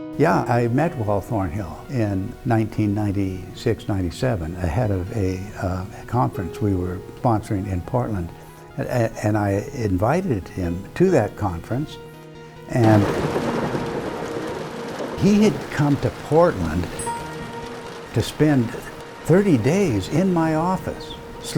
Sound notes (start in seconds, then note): 15.7 thunder rumbling